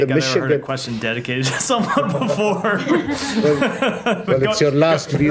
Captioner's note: laughter